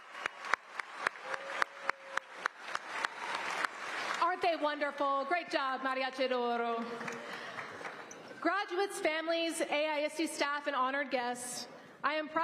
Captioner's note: applause